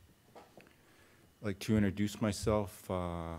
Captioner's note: in English